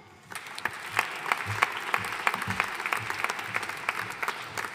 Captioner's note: audience applauding